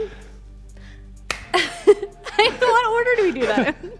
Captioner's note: claps; laughs